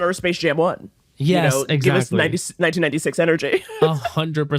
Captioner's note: laughs